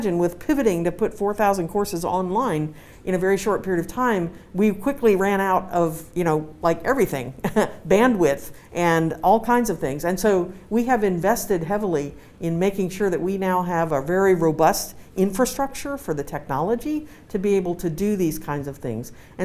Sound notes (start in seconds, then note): 7.4 laughs